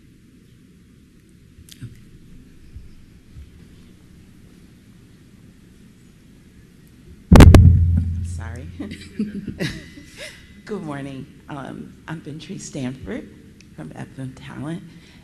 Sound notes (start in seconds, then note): 4.3 microphone feedback